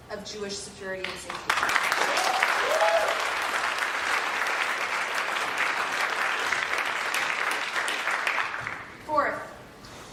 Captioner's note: applause